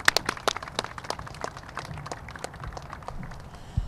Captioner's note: applause